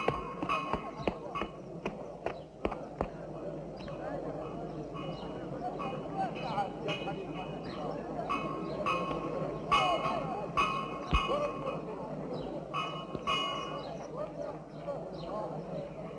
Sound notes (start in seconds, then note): 5.3 crowd chattering